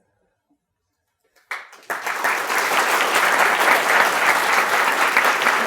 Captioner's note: applause